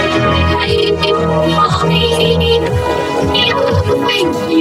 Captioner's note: glitched groaning; glitched, stuttered audio